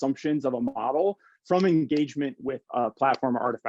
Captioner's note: hands clapping